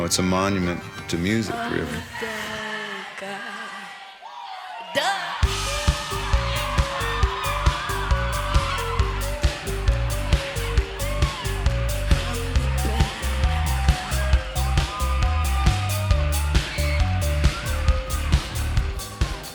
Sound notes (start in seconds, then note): 5.9 crowd screaming; 5.9 dance pop music; 15.1 crowd screaming; 15.1 dance pop music